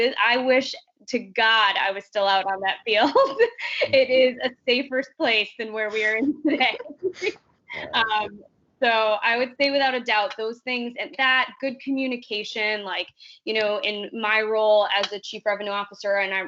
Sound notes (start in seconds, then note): 3.7 chuckling; 5.9 chuckling